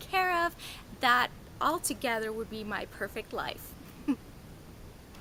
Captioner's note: laughs